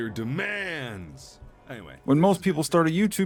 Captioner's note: voice fades into background